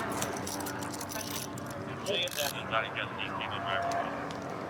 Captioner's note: dispatch chatter